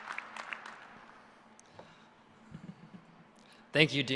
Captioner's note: applause